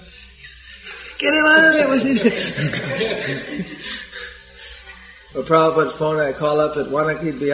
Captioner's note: laughter